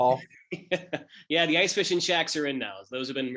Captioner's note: laugh